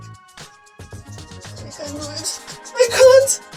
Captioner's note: dog running